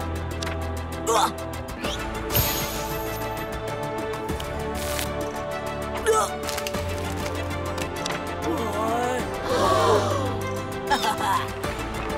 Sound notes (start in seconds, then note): 5.5 gasping; 9.4 gasping; 10.9 chuckles